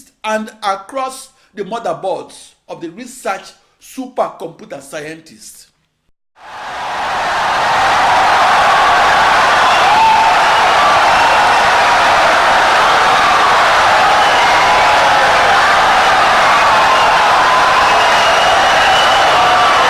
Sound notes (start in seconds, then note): 7.9 wild applause and cheering for 17 seconds